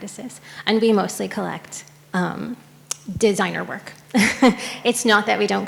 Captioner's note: laughs